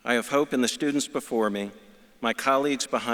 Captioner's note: none